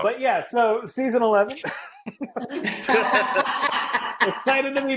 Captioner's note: laughing